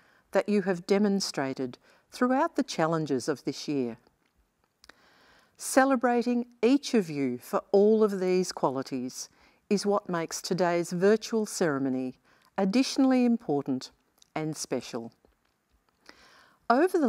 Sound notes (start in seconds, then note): none